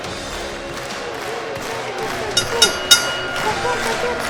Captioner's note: kids voice